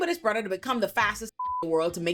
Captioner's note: beep